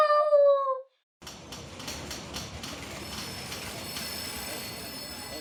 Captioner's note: busy office sounds